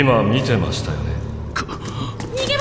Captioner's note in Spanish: Cris jadea